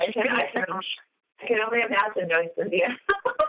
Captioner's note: laughter